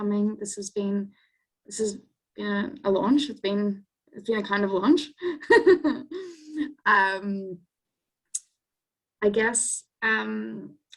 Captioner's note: laughs